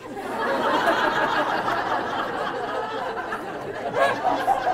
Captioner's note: audience laughing